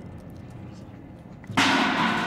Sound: distant crashing

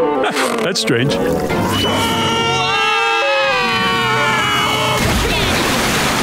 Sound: screaming

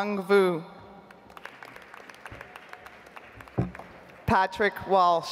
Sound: audience applauds

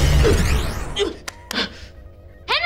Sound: groaning

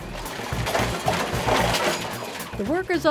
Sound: recyclables rattling

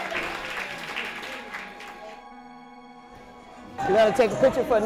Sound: crowd applauds

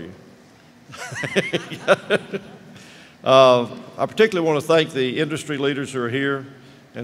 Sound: chuckle

